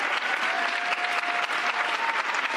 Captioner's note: cheers and applause